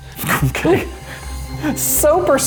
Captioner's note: laughs